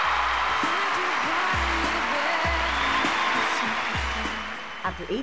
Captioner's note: audience cheering